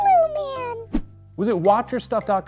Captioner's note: air whooshing